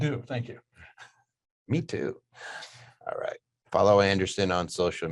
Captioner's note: laughing